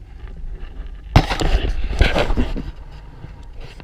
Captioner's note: GoPRO HINGE CREAKING